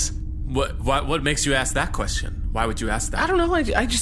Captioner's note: stammering